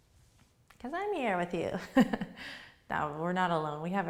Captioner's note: laughs